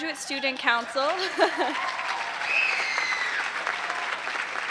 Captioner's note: applause